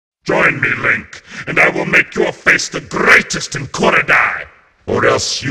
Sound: in G-Majored Voice

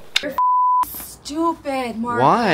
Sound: beep

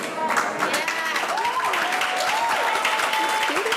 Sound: audience applauding

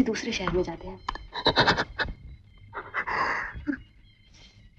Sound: sobbing

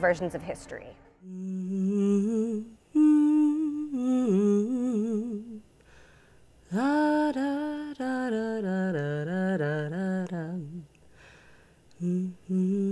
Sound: humming

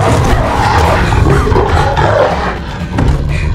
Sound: snarling

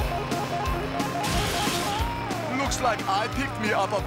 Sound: crash

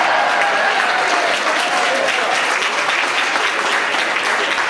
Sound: audience laughs; audience cheers

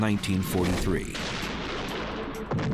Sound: explosions

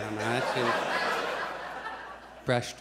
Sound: audience chuckles

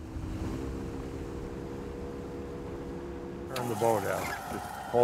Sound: boat motor humming

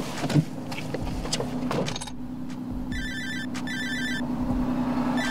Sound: phone ringing

